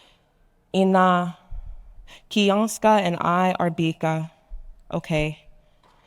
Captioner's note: speaking in foreign language